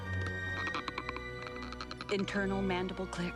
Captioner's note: clicking